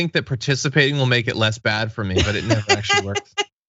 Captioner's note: laugh